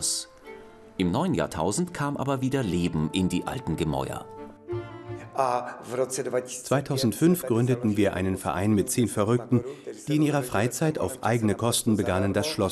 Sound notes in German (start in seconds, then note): 6.1 tschechisch